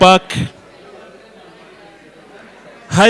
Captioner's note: crowd murmurs